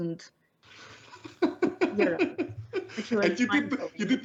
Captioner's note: laughs